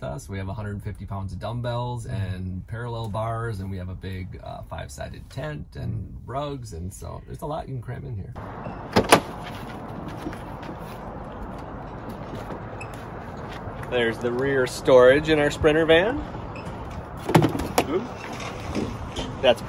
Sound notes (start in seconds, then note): 8.7 door clicks; 16.7 storage falls